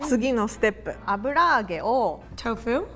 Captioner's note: speaking in Japanese